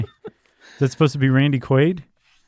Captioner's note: laughter